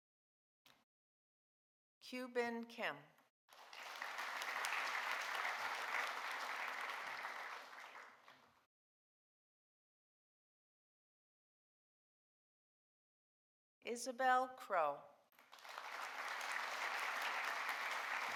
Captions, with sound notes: Kyubin Kim. (audience applauding) Isabel Krogh. (audience applauding)